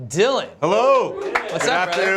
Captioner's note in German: klatschen